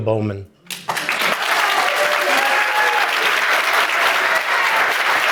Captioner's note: audience applauding